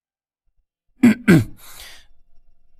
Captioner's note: cough cough